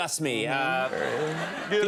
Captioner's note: audience laughing